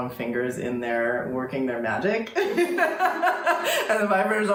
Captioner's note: laughing